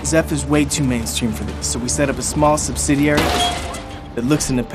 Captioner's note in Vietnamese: tiếng va đập